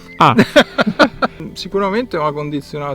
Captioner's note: laughs